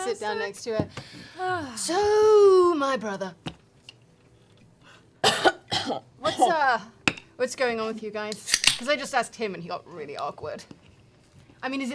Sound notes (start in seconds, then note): 5.2 coughs